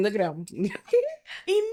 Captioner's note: laughs